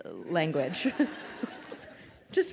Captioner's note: crowd laughing